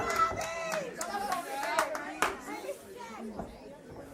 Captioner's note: crowd cheering